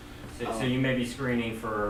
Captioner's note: voiceover